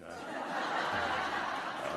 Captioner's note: laughter